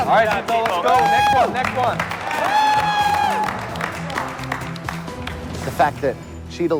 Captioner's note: cheers and applause